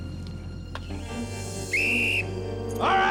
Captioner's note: whistle blows